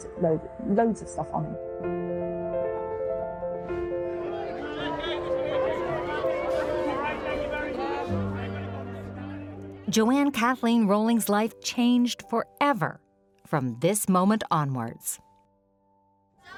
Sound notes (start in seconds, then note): 3.7 gentle music; 4.3 crowd chattering